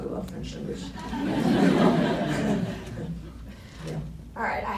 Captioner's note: laughs